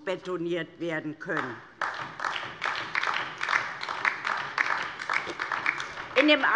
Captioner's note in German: Beifall DIE LINKE